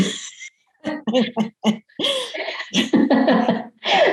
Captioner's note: laughs